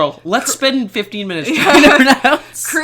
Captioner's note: laughs